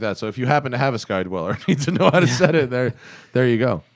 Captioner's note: laughter